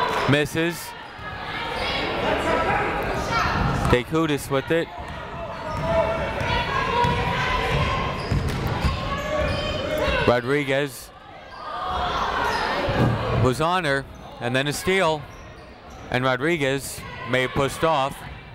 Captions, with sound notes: Misses. (people shouting in the crowd) D'Chiutiis with it. (people shouting in the crowd) Rodriguez. (people shouting in the crowd) Was on her, and then a steal, and then Rodriguez may have pushed off.